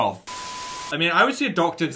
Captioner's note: TV static